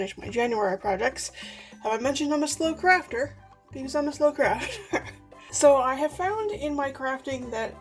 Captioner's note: laughs